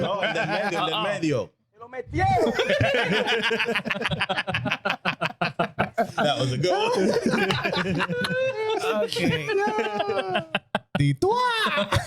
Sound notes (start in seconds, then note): 3.8 laughter; 8.9 laughter